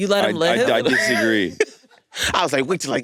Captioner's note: laughs